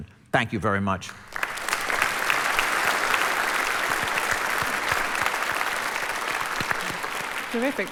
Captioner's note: applause